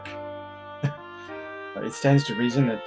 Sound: chuckles

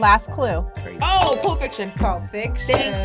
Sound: bell dings

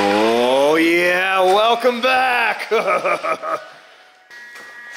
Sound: laughing

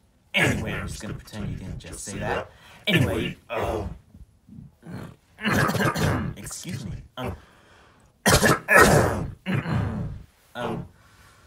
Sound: clears throat; clears throat again

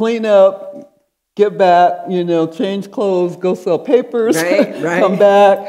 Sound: laughing

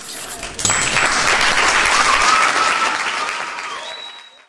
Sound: clapping

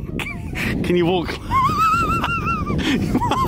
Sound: laughing

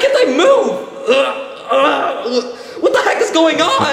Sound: Mario groaning

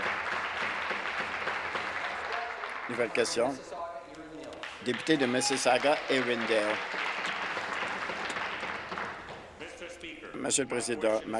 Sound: applause

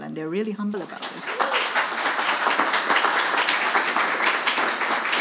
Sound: audience clapping

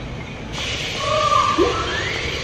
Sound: owl hooting; bird squealing

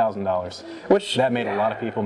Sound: sighs

